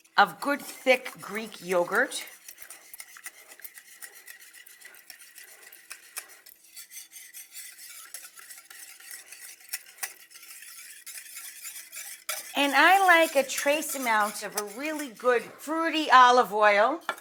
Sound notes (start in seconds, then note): 2.4 mixture whisking